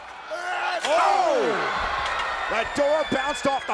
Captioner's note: crowd shouting; Roman yelling